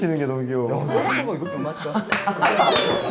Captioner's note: almost gagging